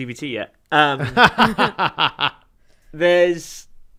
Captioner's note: laughter